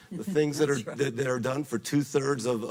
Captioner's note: laughs